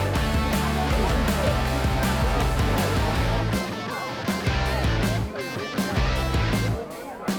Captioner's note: background people chattering; upbeat rock music